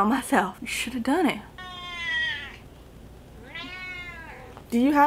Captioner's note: cat meows